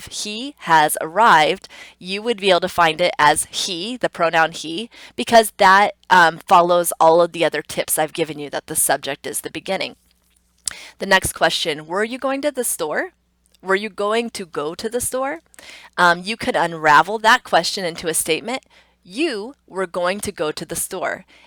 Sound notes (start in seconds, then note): 10.0 tongue clicks